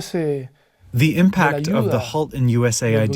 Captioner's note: through translator